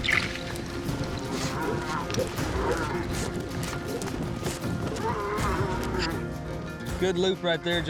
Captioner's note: mooing